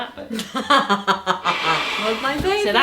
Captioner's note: laughing